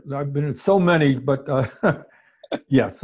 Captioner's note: chuckles